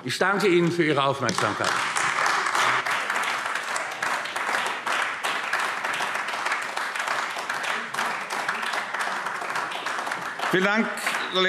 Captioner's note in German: Beifall AfD